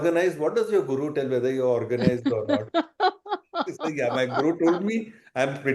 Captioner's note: laughter